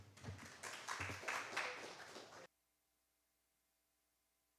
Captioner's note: applause